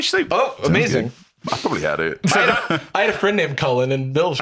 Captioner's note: laughs